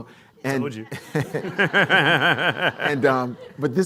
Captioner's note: laughs